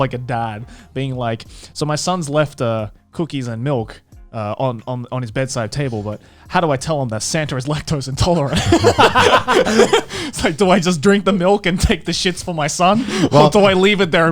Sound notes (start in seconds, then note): 10.5 laughing